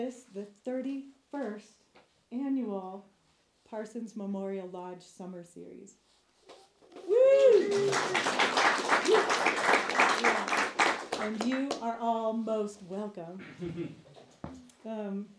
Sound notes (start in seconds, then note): 6.9 woo’s and Applause